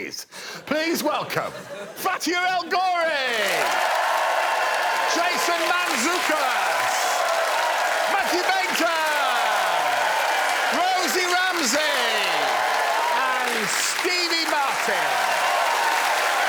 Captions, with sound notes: Please welcome... -Fatiha El-Ghorri. -[audience cheering] -Jason Mantzoukas! -[whooping] -Mathew Baynton! -[cheering] -Rosie Ramsey! -[cheering] -And Stevie Martin. -[cheering]